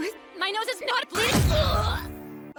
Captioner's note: grunt